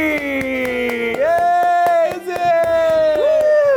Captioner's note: clapping